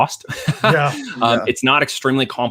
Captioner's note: chuckling